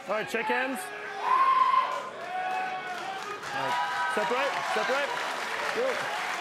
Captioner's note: applause